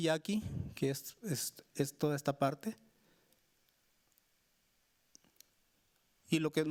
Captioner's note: speaking Spanish continues